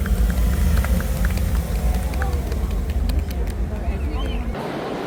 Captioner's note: applause